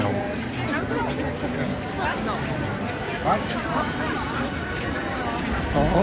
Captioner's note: crowd noise